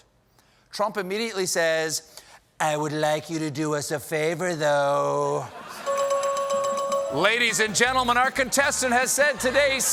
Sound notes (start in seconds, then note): 5.8 bell ringing